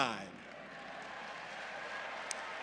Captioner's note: applause